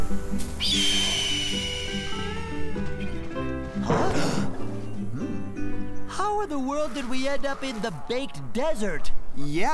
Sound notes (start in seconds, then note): 0.7 bird crows; 2.0 soft music; 3.7 gasps